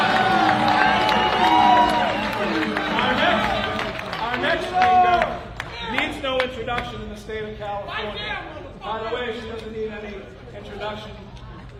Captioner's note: applause